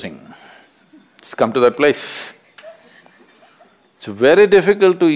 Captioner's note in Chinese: 一位參與者笑了